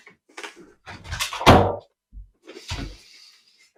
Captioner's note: door shuts